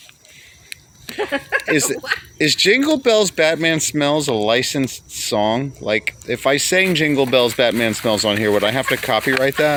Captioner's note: laughing